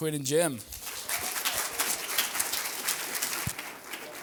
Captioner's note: applause